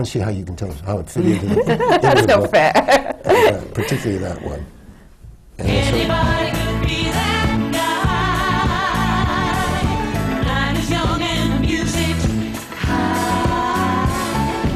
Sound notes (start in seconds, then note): 1.2 laughter; 3.0 laughs; 5.8 tape starts, music